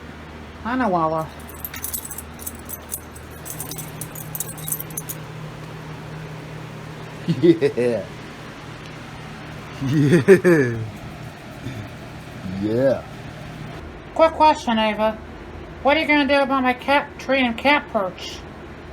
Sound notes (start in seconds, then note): 2.4 Ella laughs